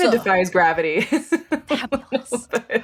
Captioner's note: laughing